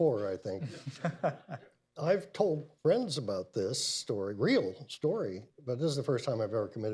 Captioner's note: laughs; laughter